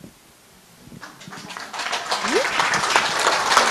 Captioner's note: applause